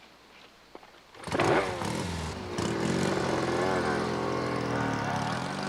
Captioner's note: motorbikes rumbling